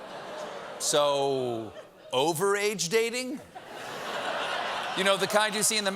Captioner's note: audience reacts